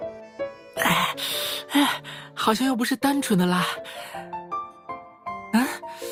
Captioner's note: gasp